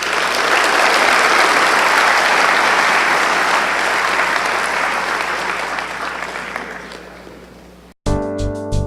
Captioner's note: applause